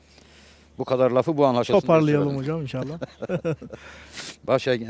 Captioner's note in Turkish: kahkaha